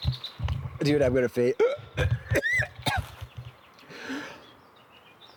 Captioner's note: heaving